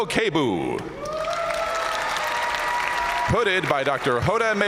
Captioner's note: audience cheering